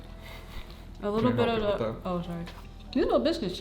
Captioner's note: mumbles